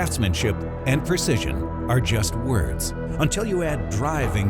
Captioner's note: voiceover